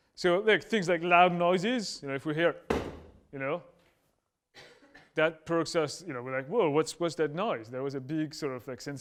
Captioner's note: stomp